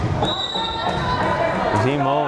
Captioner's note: whistle blares